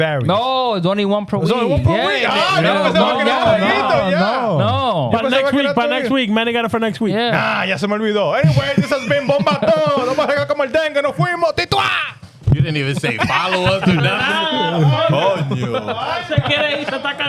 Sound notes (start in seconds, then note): 2.4 speaking In Foreign Language; 8.1 speaking In Foreign Language; 15.8 laughing; 15.8 speaking In Foreign Language